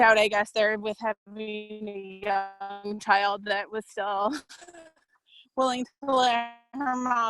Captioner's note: laughs